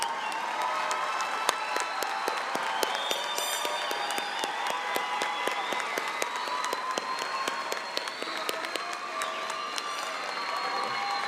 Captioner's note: applause